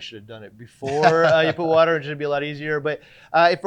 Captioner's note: laughing